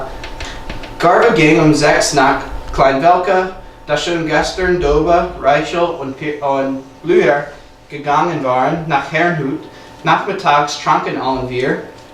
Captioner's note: speaking German